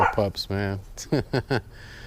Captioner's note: laughs